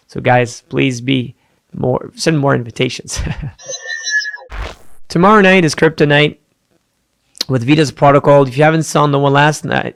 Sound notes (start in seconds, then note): 3.2 chuckles; 4.5 machine whirring